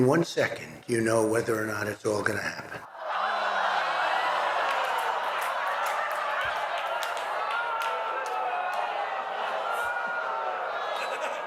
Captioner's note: laughter